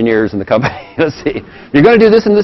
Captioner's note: laugh